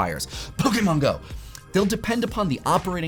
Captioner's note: sneezing